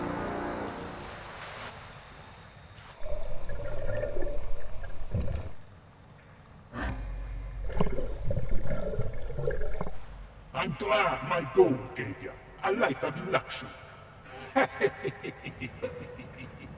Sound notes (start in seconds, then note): 3.0 water bubbling; 14.3 leprechaun laughing